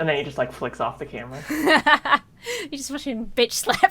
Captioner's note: laughs